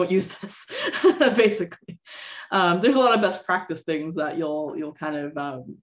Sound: laughter

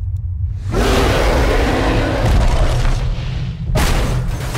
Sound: loud roar; banging

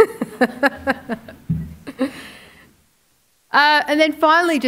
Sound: laughing

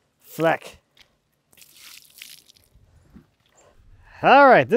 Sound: water splashes

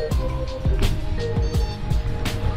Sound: beep

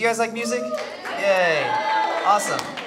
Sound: crowd cheers

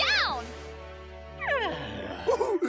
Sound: yawning

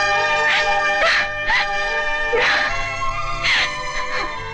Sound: sobbing

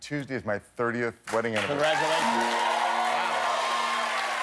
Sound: cheers and applause

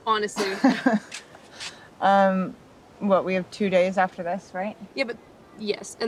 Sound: laughs

